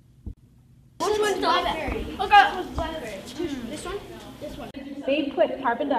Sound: children talking

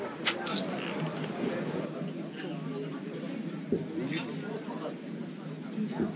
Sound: human voices

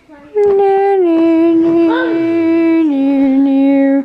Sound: humming

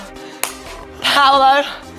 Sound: clapping

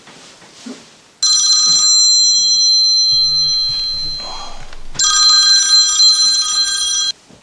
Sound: phone ringing; cell phone vibrating

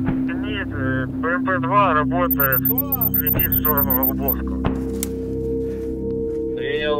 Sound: radio exchange

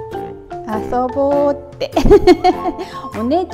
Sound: laughs

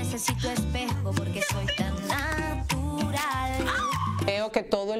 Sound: Grito

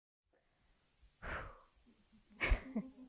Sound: exhaling; laughing

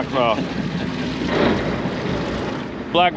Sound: laughing

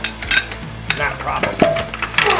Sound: clanging metal

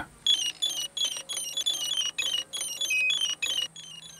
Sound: beeping

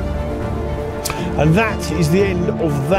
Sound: rod holder clicks

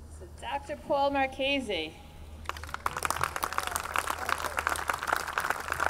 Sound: audience clapping

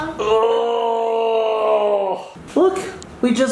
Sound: groans

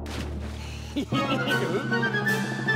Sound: giggles

